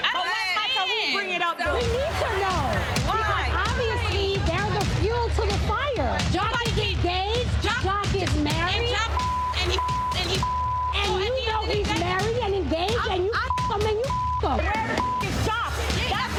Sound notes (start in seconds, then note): 9.0 beep; 14.9 beep